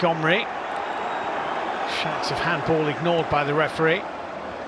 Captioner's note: audience oohs